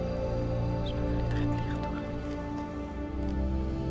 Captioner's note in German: flüstert auf Schweizerdeutsch